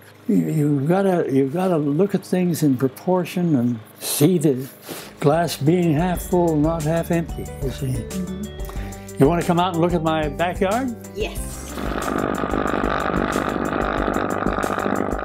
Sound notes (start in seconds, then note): 12.1 motor rumbling